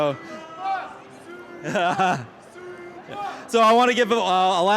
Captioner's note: crowd chanting